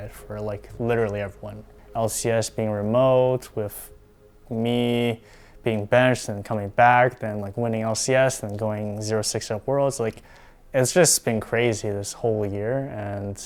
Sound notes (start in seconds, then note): none